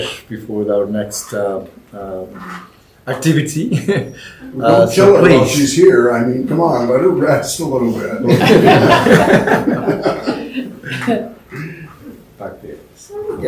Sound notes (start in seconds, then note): 8.2 laughter